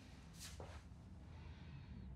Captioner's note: none